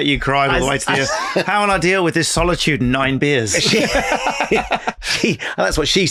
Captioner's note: laughing